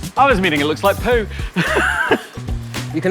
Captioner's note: laughs